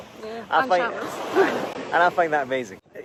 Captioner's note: chuckles